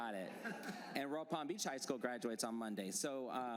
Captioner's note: laughter